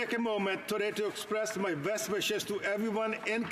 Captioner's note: speaking alternate language